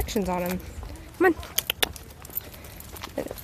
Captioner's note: clicks tongue